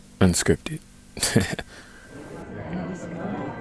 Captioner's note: chuckles